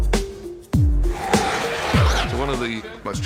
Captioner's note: up-beat music plays; viserion roars